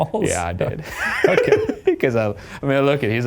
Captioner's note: laughing